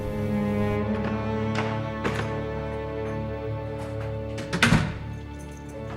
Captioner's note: door opens; bags rustle; door shuts